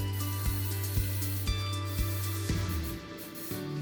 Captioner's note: sprayer hissing; pleasant music continues